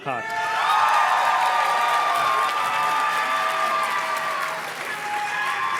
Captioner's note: audience cheers and claps